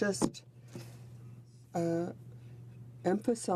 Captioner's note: speaking French